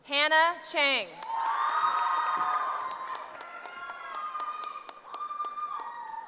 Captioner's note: cheering